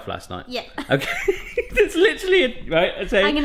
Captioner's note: laughs